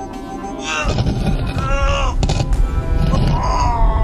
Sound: Papi grunts

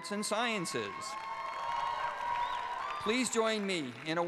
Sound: cheers and applause

